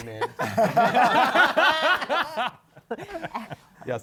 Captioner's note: laughter